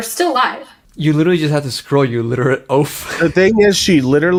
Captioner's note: laughs